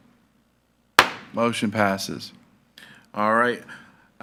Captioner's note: gavel thuds